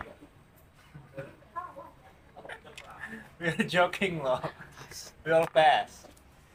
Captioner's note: laugh